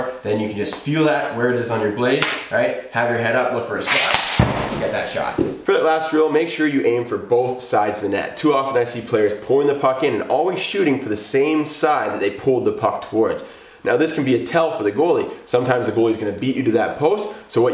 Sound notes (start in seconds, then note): 3.8 stick scrapes against floor; 3.9 puck thuds against backdrop